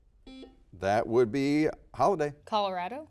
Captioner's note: buzzer dings